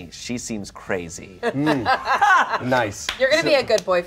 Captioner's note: everyone laughs